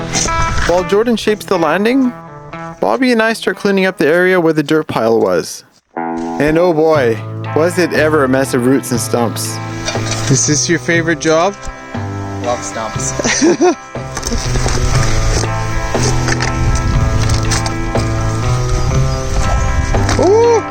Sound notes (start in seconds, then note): 13.1 laughs; 15.9 crunching; 16.8 fun guitar music; 20.4 howls